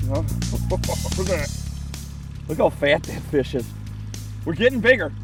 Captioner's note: laughs